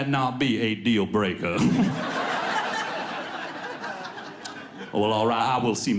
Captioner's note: audience laughs